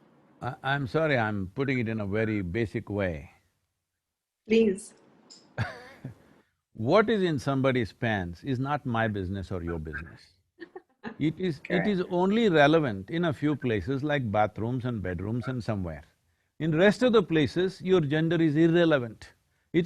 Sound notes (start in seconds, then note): 6.1 laughs; 10.4 Noor laughs